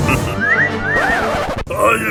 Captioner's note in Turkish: Islık çalar